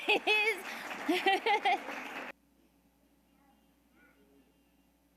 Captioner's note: audience applauding